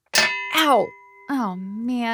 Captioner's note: metal clinks